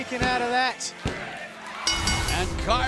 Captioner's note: bell ringing